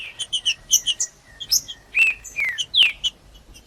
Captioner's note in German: trinca ferro cantando